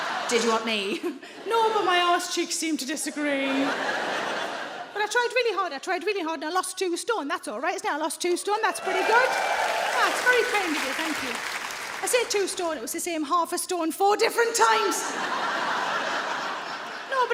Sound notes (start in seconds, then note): 0.0 audience laughing; 3.1 audience laughing; 8.6 audience cheering; 14.6 audience laughing